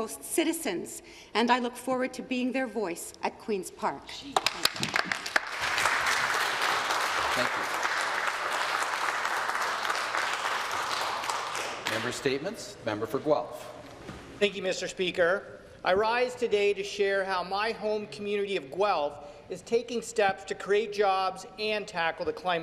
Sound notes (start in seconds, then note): 11.3 applause